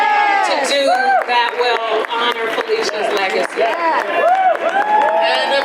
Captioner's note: audience applause